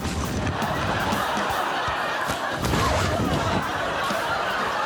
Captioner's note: laughter